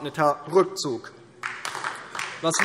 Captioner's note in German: Beifall DIE LINKE